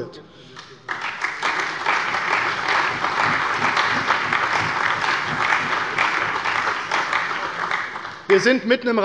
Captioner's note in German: Allgemeiner Beifall